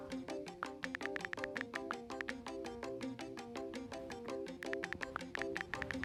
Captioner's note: typing sounds; upbeat peppy music